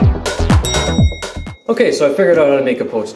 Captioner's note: timer dings